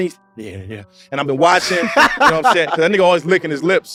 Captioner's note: laughs